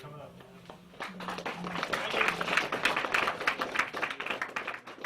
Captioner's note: applause